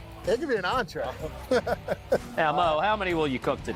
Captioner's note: laughs